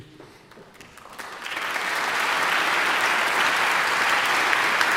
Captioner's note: audience applauding